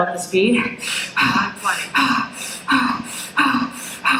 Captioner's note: breathing